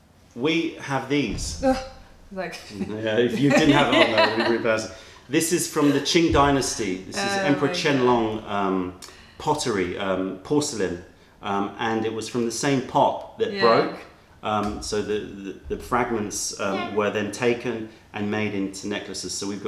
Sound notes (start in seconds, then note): 2.7 laughter